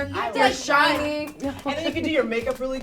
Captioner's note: laughs